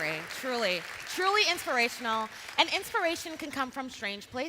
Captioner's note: cheering and Applause